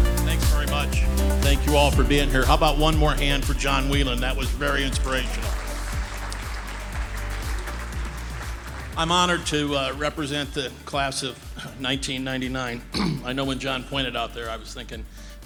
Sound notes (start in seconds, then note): 0.0 upbeat cheerful music; 4.4 audience applauding